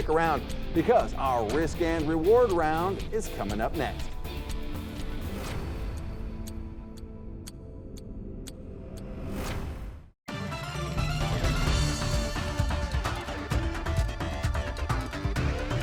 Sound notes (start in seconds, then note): 3.8 upbeat music; 5.5 clock ticking; 10.2 energetic music